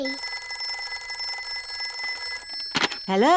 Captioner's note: phone rings